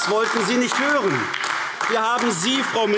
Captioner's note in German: Beifall AfD